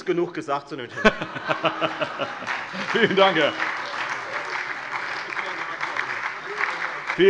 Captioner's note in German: Heiterkeit und Beifall Freie Demokraten, SPD und vereinzelt DIE LINKE